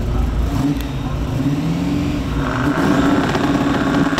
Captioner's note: engine revving